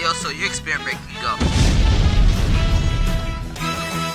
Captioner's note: explosion